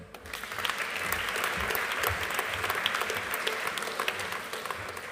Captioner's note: audience applauding